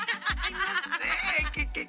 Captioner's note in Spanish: Carcajadas